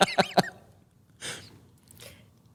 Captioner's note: laughter